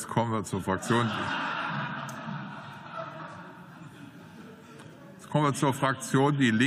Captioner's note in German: Zwischenruf und Gelächter